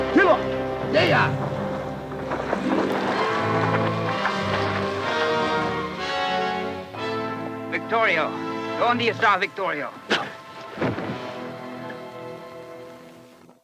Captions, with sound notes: (Red Hawk speaks Spanish) - Victorio, (speaks Spanish) Victorio.